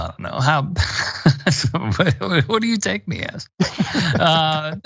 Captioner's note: laugh